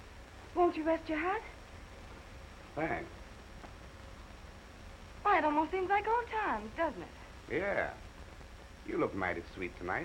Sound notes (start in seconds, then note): none